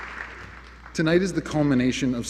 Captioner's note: applause